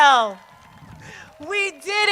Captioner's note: crowd cheers